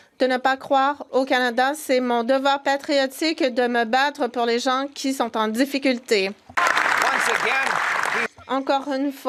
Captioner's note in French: voix de l'interprète